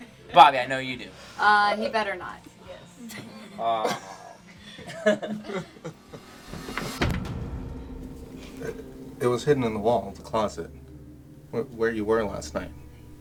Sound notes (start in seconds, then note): 3.0 laughing; 7.1 soft dramatic music